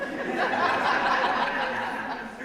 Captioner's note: audience laughs